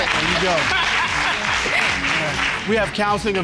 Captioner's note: all laughing